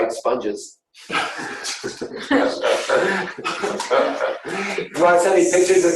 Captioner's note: laughing